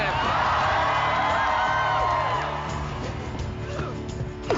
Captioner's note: cheering; grunting